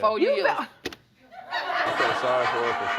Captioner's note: audience laughing